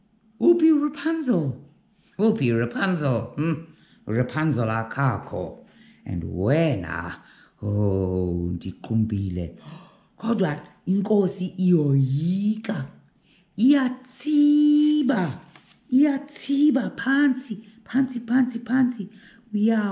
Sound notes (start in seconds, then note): 1.8 scoffs; 9.6 gasp!